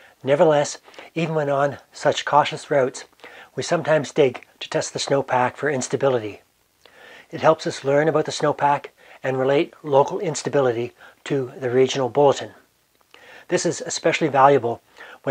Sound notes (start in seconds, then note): none